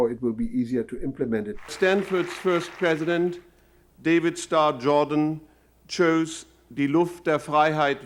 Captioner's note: applause